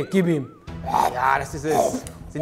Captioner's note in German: Essgeräusche